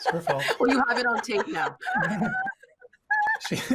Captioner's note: laughing